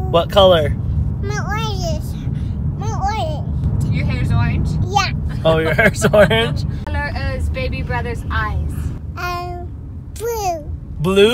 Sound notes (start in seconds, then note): 5.4 laughs